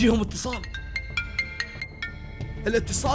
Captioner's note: phone ringing